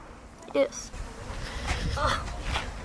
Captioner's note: crying